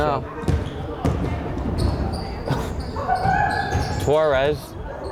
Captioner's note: crowd chattering and yelling